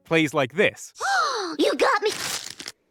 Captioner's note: excited gasp